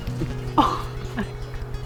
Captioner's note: laughter